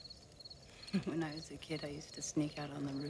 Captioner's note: chuckles